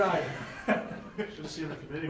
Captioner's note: laughing